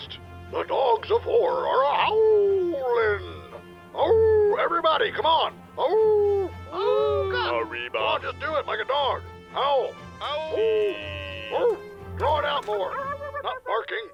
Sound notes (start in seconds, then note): 4.1 howling; 5.8 everyone howls